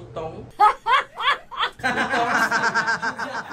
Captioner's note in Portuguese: risos